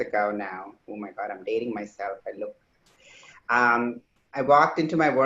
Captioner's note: speaks faintly